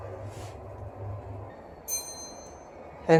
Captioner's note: chime